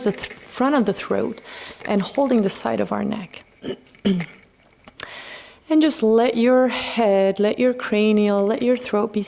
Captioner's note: clears throat